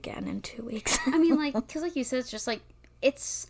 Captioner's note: laughs